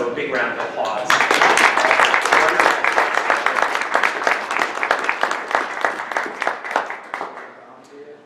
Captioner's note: audience clapping